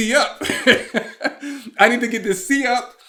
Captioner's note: laughing